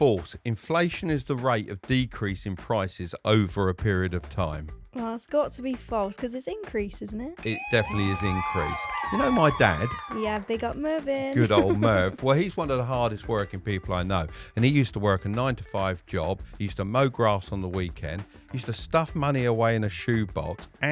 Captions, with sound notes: - True or false, inflation is the rate of decrease in prices over a period of time. - Well, it's got to be false 'cause it's increase, isn't it? - It definitely is increase. (bell dinging) (crowd cheering) You know my dad? - Yeah, big up Marvin. - Good old Marv. Well he's one of the hardest working people I know and he used to work a nine to five job. He used to mow grass on the weekend, used to stuff money away in a shoebox